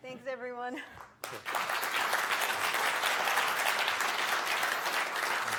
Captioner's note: audience applauds